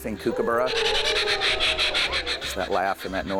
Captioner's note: kookaburra chirps